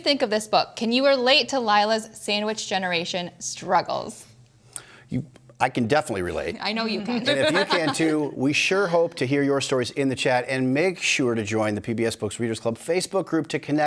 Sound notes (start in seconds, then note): 7.2 laughs